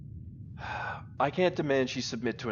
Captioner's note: frustrated sigh